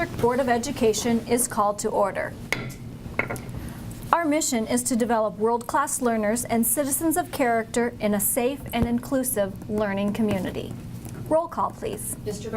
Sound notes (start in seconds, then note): 2.3 gavel bangs